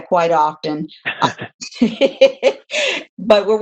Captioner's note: chuckling